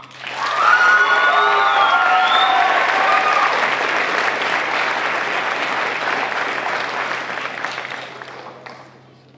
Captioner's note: crowd cheering